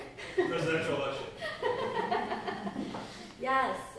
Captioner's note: laughter